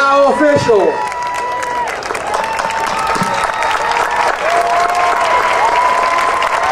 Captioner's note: audience cheering and applauding